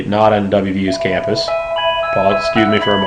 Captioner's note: clock chiming